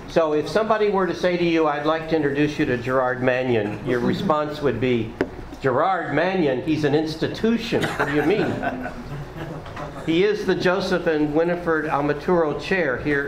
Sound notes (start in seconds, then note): 7.8 laughing